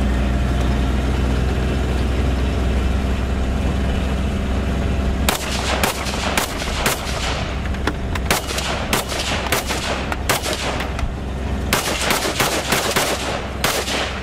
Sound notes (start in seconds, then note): 0.2 vehicle engine; 5.2 gunfire